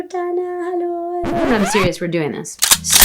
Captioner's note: foreign language; record scratching sound